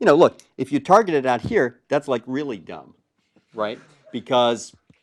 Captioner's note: laugh